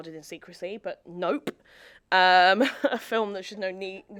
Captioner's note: chuckles